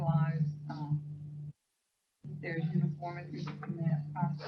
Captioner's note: speaker off microphone